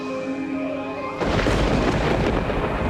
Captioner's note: thunder crashes